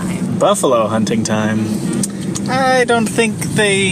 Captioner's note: incredulously